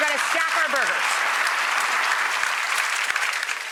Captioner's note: audience applauding